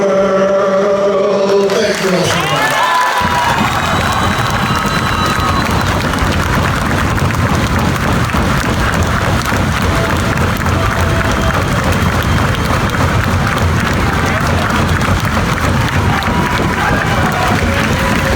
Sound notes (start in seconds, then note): 3.3 audience applauds; 3.3 audience cheers